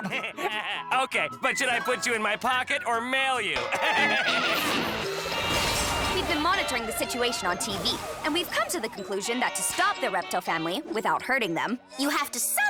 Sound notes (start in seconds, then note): 7.0 laser blast